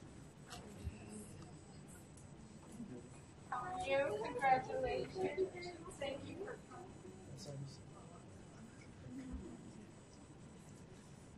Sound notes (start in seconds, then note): 3.7 voiceover